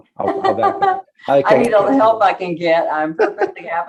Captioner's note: laughs